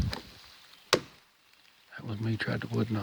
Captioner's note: stick thuds